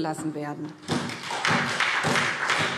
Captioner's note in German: Beifall SPD und DIE LINKE